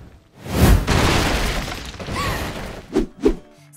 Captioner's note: crashing